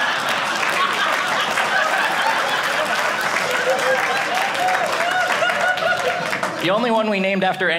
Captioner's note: audience laughing; audience cheering